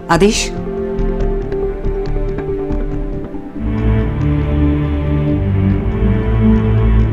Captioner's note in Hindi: none